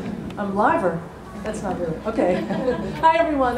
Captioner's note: laughter